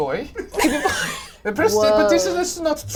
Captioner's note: all laugh